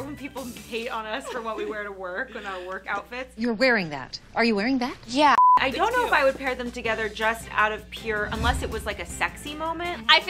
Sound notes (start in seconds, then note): 5.3 screen beeps